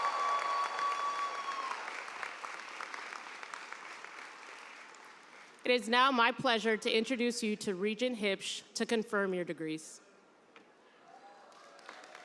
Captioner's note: cheers and applause